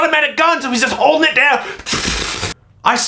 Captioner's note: shooting sounds